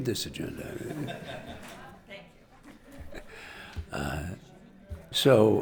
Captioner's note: audience laughing